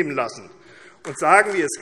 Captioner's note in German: Beifall AfD